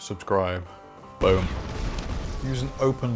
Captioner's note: explosion